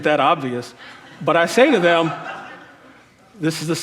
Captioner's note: crowd laughing